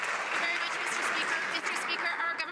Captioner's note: some Applause